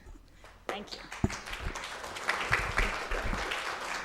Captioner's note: audience applauding